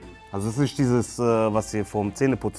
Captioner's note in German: none